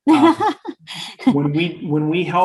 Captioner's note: laughing